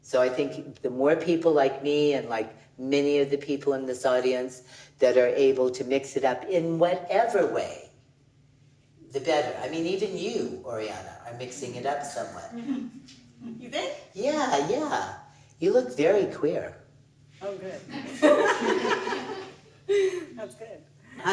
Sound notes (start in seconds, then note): 17.9 laughs